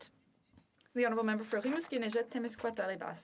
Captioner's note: speaking French